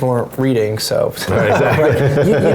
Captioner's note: laugh